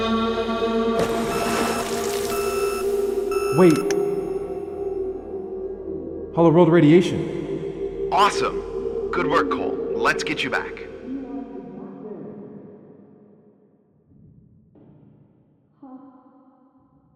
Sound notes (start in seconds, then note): 1.2 beeping